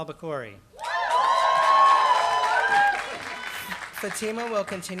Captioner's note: applause